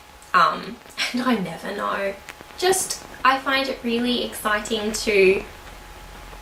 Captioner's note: laughs